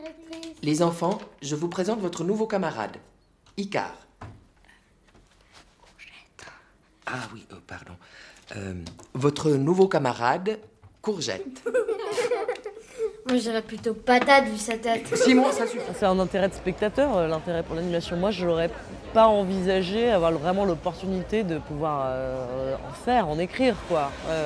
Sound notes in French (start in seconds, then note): 11.4 rires d'enfants